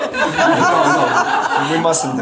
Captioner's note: laughter